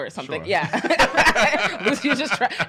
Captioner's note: laughing